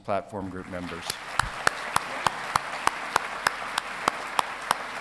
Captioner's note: audience applauding